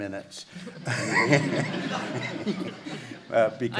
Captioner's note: laughs